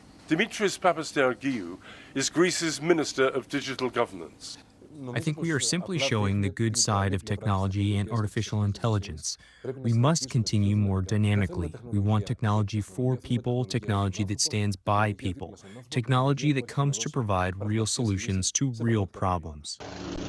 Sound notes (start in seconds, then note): 5.5 through translator